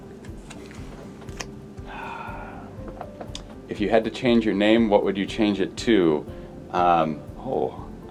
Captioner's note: sighs